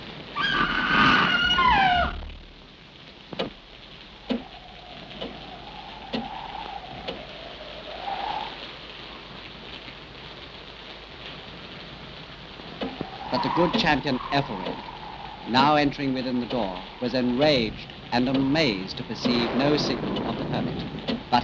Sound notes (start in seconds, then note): 0.2 Madeline screams; 4.2 clock ticks